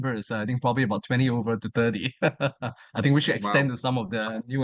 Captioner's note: chuckles